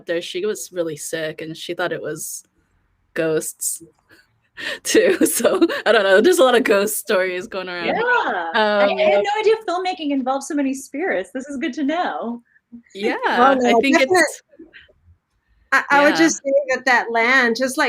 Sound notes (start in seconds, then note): 5.3 laughs